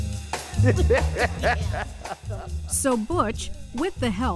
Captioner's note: both laughing